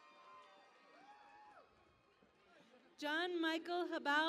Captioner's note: cheering and Applause